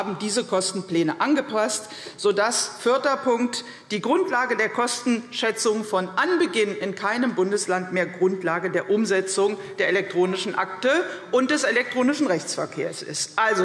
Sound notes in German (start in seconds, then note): none